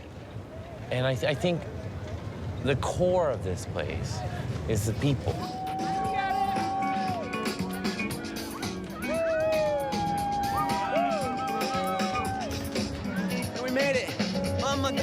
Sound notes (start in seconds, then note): 5.3 upbeat music; 6.1 cheering